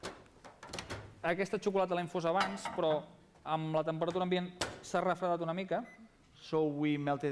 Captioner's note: non-english speech